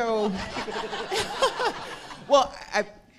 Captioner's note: audience laughing